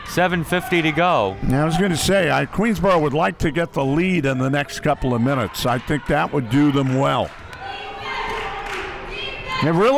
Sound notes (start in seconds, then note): 8.2 claps